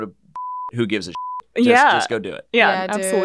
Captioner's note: beep